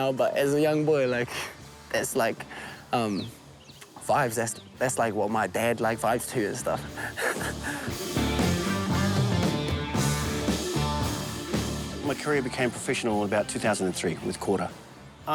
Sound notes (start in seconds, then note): 6.5 chuckles; 8.0 upbeat rock music